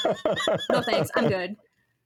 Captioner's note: laughing